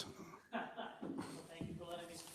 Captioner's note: chuckles